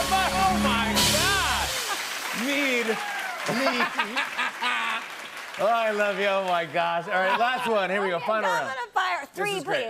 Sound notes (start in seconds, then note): 3.4 laughs